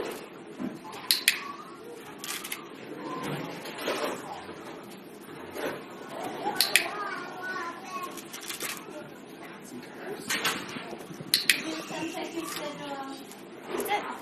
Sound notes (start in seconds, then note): 1.0 tagulator clicking; 6.6 tagulator clicking; 11.3 tagulator clicking